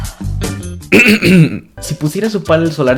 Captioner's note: clears his throat in spanish